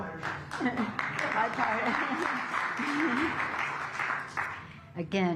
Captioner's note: applause